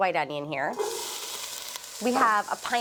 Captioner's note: sizzles